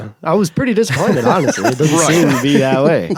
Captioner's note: laughs